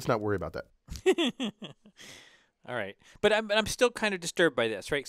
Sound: laugh

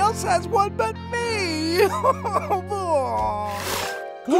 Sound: sobbing; gasps

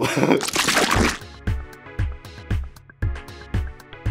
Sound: laughs; logo squelches

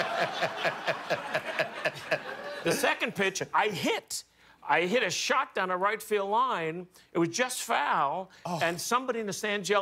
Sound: laughter

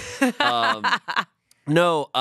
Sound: laughs

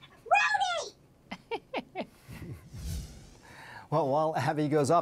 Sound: laughs

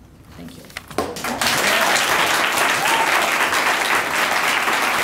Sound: audience applauding

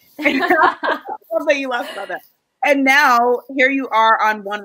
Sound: laughs loudly

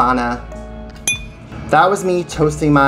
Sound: glass Clicks together

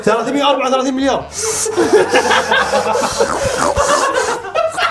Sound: breathing heavily; laughing

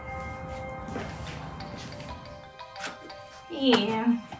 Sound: phone ringing

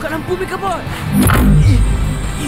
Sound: electrical thrum

